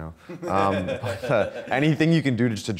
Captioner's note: laughing